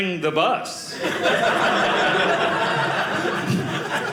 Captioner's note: audience laughing